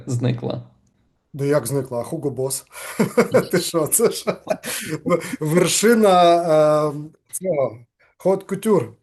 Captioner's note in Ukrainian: сміється